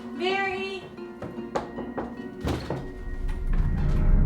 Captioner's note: knock on door